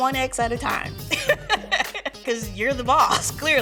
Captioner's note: laughing